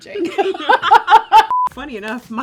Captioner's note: both chuckles